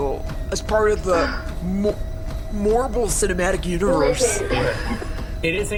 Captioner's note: background treadmill noises